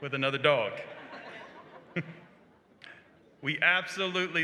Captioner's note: laughter